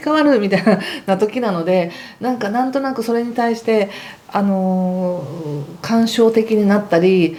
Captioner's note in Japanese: 笑い